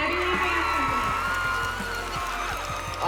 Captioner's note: cheers and applause